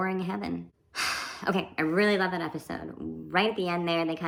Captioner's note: sigh